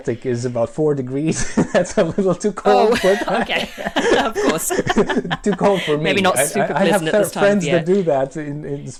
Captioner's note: laughs